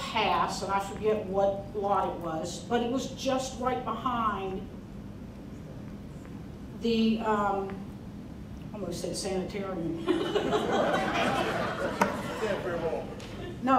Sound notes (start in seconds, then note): 10.1 crowd laughing; 12.4 man speaking